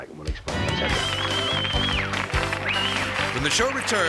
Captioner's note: audience cheering